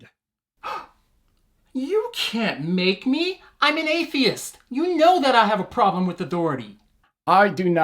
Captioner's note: gasp